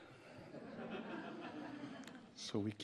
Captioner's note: audience laughs